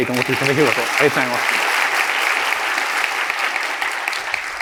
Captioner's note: applause